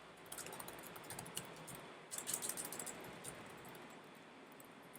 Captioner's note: keystrokes clicking